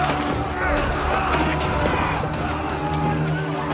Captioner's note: battle cries